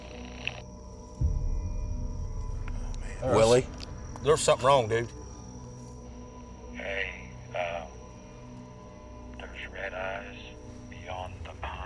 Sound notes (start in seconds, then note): 0.2 radio static; 1.9 suspenseful music playing; 5.2 crickets chirping